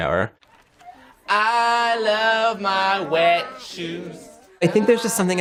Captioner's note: singsong voice